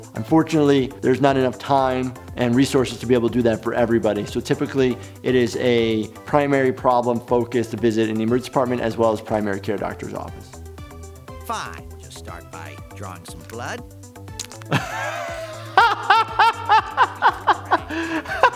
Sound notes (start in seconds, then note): 14.6 laughing